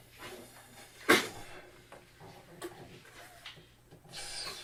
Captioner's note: taking breaths; squeaking balloon